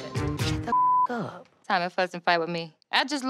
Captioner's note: beep